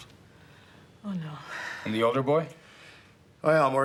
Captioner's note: sighs